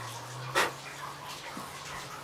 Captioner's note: blowing